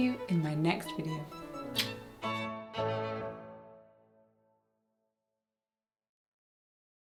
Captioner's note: bright music; smooches